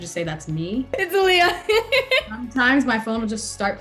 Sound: laughs

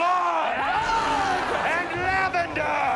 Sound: yelling

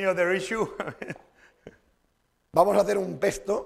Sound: chuckles; speaking spanish

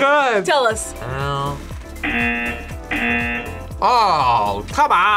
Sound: buzzer

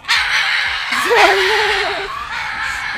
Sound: laugh

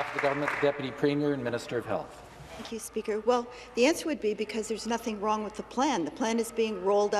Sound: some Applause

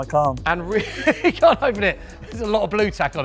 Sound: laughs

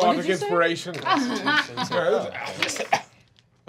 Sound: laughing

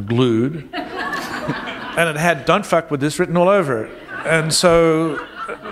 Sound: laughter

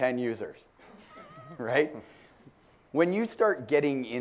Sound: laugh

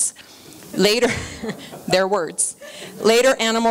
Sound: chuckling

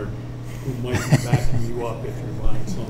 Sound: laughs

